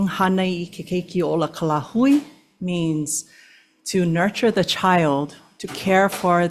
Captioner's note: speaks Olelo Hawai'i